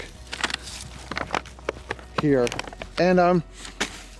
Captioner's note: paper bag rustling